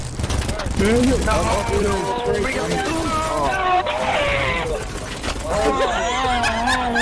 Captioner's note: all scream; laughs intensely